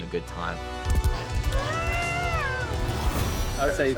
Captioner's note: screams